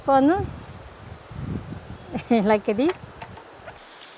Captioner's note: laughs